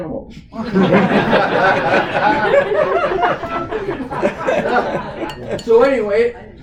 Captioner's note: laughter